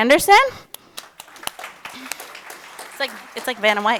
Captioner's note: all applauding